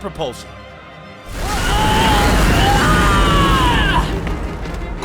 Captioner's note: screaming